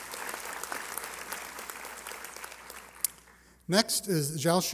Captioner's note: applause